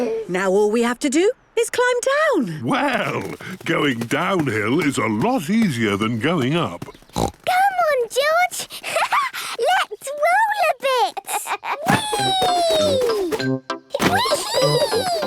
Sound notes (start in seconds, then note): 6.8 snorts; 10.8 laughs